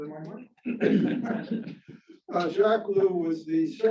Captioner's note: crowd chuckling